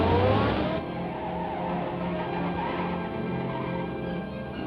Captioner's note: tires squealing